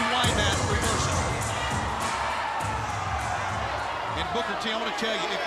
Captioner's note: crowd cheering